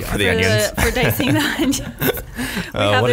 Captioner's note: laughs